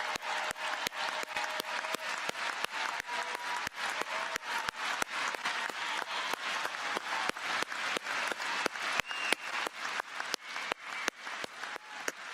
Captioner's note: cheers and applause